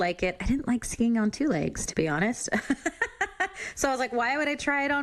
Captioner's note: laughs